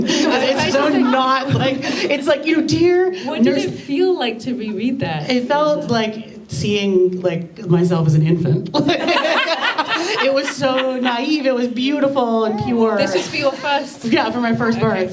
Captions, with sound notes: And it's not like... it's like, you know, “you dear-” What did it feel like to reread that? It felt like seeing, like, myself as an infant. [laughter] It was so naive. It was beautiful and pure! This was for your first. Yeah, for my first birth. Right.